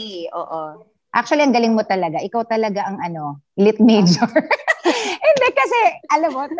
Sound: laughs

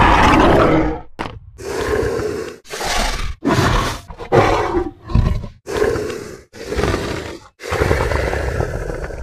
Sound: loud roar; dino breathing

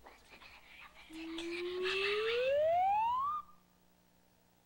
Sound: whispering

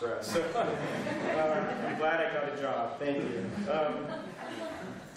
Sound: laughter

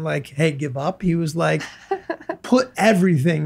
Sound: laughs

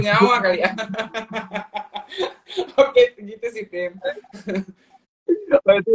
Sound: laughs

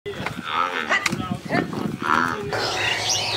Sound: A herd of buffalo grunts

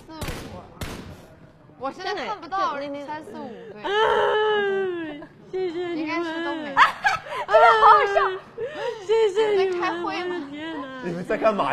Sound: weeping

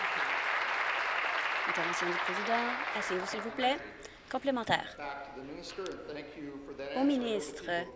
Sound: applause

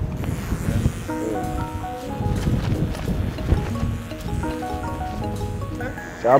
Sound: razor buzzing

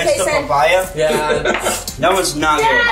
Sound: laughing

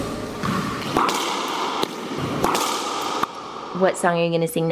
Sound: balls bouncing

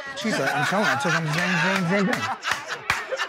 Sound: laughter

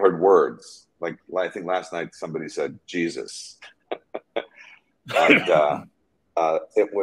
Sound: chuckling

